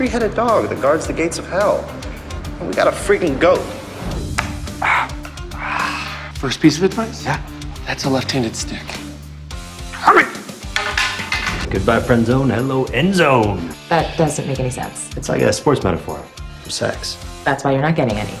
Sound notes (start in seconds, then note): 4.6 groans